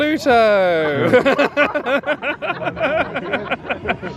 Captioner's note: laughing